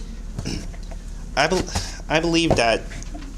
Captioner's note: clears throat